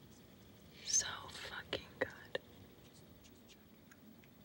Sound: whispering

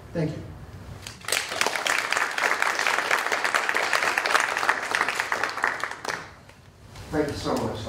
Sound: applause

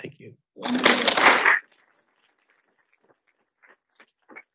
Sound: audience applauding

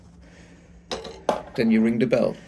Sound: money dropping into the box below

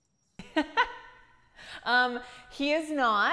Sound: chuckling

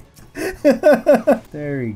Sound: laughing

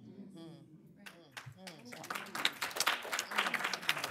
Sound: applause

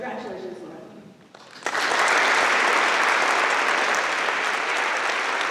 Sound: applause

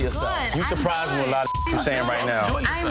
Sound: beep

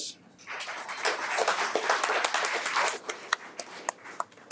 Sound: audience applauds

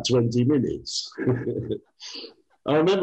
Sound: laughs

